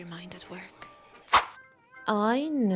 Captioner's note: woosh